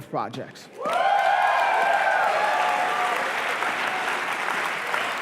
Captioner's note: cheering